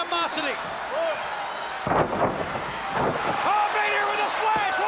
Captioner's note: crowd cheering